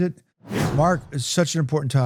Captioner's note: whooshing